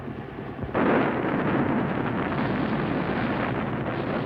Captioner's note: rockets firing